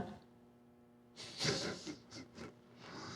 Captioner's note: giggling